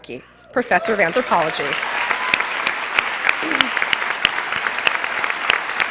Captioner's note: cheers and applause